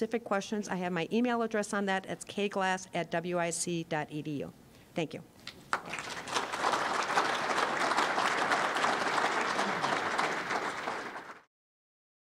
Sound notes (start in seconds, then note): 5.6 applause